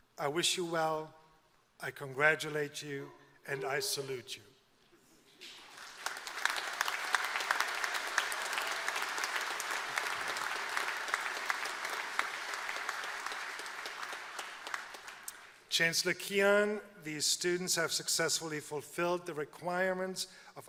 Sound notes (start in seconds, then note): 5.4 applause